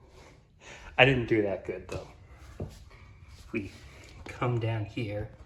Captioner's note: shuffling